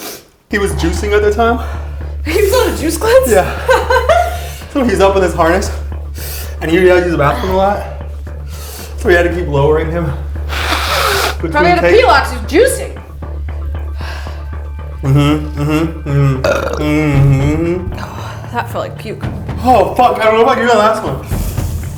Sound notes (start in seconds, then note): 3.3 laughs; 10.4 blows nose; 15.0 burps